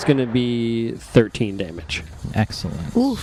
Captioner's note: sound of a gunshot